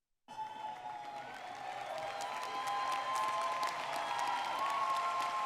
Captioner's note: audience cheering and clapping